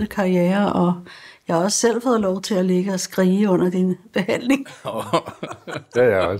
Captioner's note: laughs